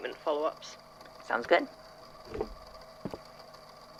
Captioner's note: chair creaks